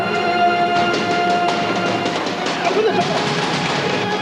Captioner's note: hitting against the door